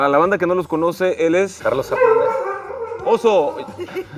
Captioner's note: dog barking